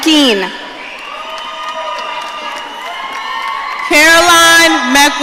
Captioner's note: audience cheering